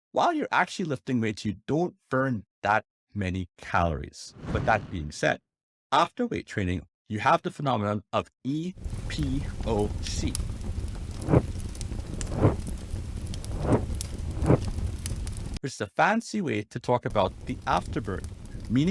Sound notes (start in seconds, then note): 10.7 fire crackling; 11.1 text whooshing